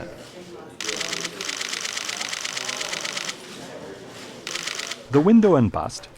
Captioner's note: camera shutter sounds